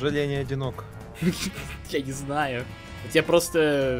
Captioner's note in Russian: смех